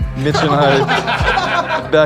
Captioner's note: laughter